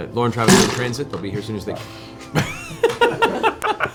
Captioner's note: thump from Sam's mug